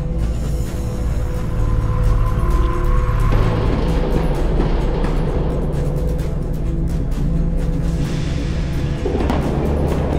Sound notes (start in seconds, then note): 4.1 dramatic music continues; 4.1 metal clanging